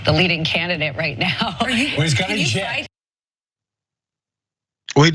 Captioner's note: laugh